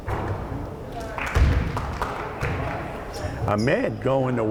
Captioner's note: crowd applauding